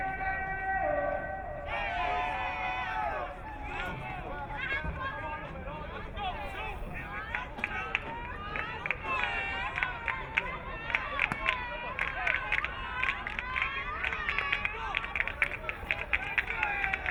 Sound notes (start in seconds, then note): 7.8 crowd cheering; 11.4 crowd clapping